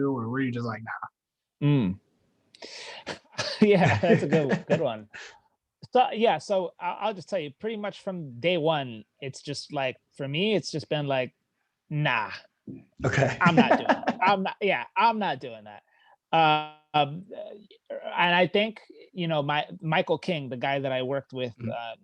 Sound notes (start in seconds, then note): 3.1 chuckling; 13.0 laughing